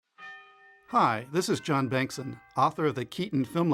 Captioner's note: bells ringing